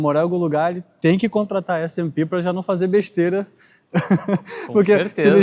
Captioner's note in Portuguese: risadas